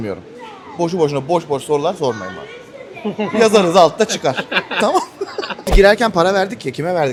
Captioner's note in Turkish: kahkaha